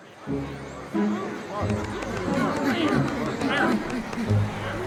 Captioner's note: crowd murmurs